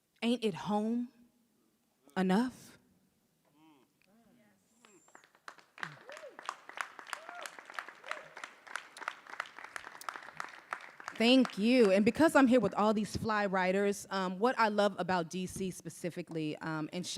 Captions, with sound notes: Ain't it home enough?" - Yes. - Whoo! (audience applauding) - Whoo! - Whoo! - Thank you, and because I'm here with all these fly writers, what I love about DC specifically,